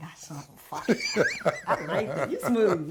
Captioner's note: Glynn laughs